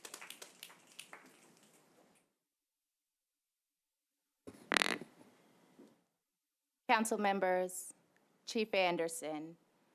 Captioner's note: applause